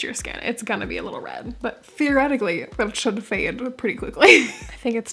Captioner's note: laugh